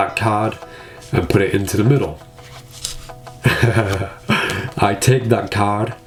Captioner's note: chuckles